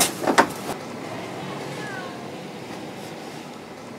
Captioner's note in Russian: Кошачье мяуканье